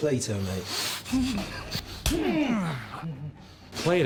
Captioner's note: groaning